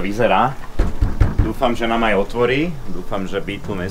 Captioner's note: knock knock knock